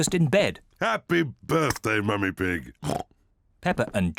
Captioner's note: oinks